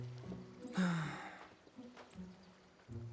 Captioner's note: sigh